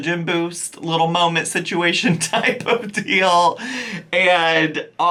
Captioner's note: laughing